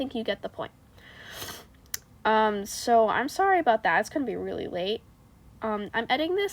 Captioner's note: yet another undignified sniffff